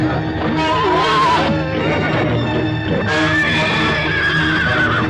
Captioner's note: horse neighing